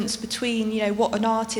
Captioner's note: none